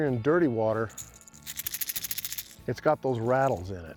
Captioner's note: shaking sound